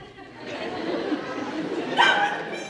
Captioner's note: audience laughs